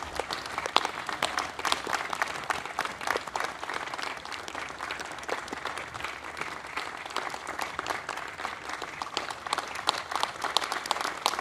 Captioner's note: applause